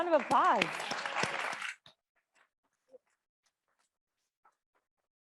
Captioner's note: audience applauding